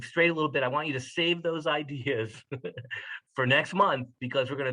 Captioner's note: laugh